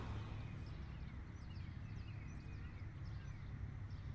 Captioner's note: birds chirping